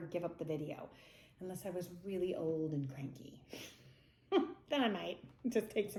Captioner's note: laughs